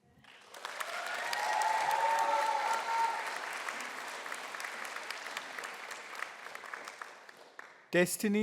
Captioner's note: applause